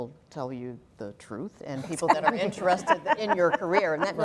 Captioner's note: laugh